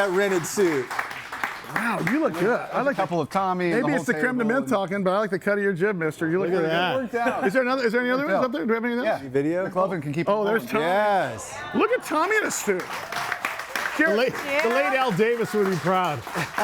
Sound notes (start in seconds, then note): 11.7 audience cheers and applauds; 16.2 both laugh